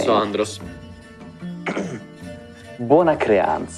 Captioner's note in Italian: si schiarisce la voce